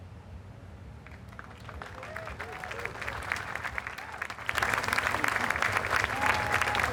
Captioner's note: applause